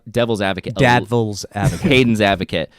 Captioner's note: chuckles